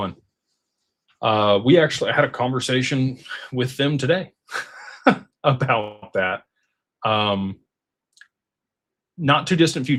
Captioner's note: laughter